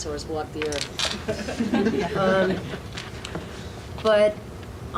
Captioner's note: audience laughs